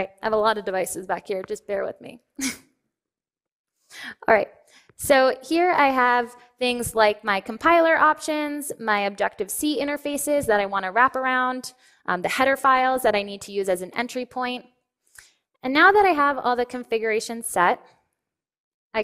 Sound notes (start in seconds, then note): 2.9 laughs